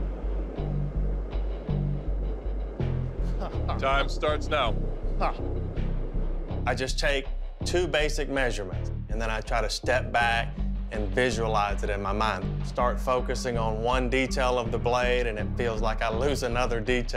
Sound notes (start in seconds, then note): 0.2 tense music; 3.4 laughs